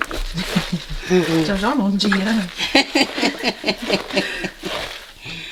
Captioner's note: giggles